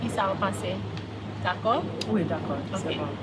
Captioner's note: person speaking in Creole; speaking in Creole